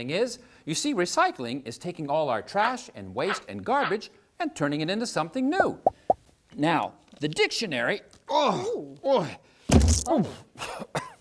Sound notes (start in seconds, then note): 7.9 grunts...noises